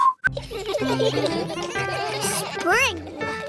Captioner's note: giggling